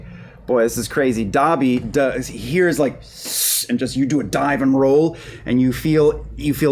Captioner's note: hissing